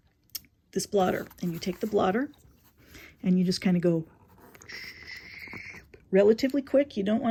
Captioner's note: shhhhh